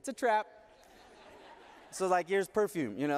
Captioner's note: audience laughing